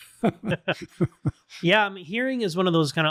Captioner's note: laughter